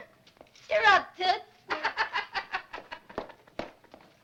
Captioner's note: laughs